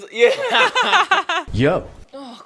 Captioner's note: chuckling